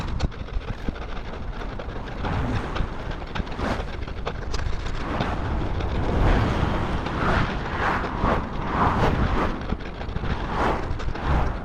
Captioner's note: wind